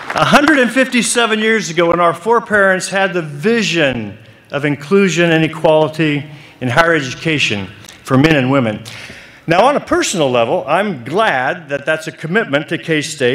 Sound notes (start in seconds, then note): 0.0 applause